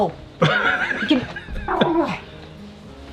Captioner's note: laughing; Daisy growling